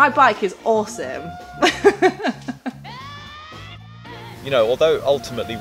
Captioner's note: laughing